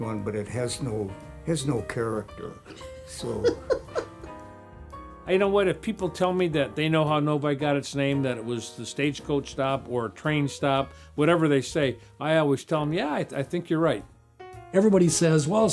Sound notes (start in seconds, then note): 2.6 laughs